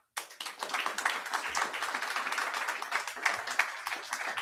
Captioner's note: audience applauding